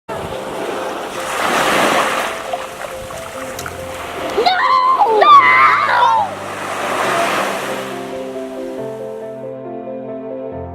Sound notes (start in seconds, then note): 0.2 waves crashing; 4.3 children screaming; 8.1 soft music